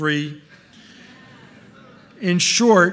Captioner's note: audience murmuring